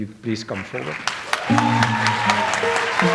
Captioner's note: audience applauds; light jazz music